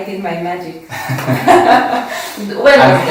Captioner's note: laughs